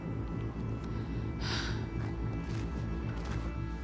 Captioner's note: sighs